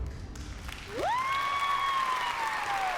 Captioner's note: cheering and applause